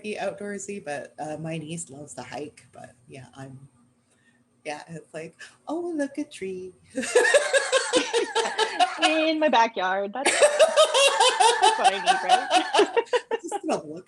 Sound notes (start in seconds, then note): 7.0 laughter